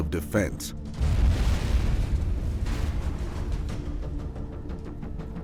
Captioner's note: explosion booming